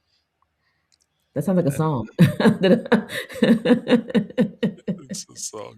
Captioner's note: laughs